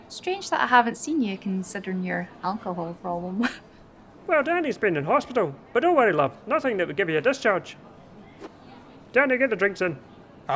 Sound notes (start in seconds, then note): 3.8 laughs